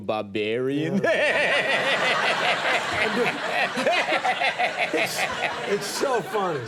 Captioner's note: Conan imitating chortling; audience laughing